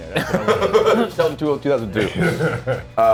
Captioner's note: laugh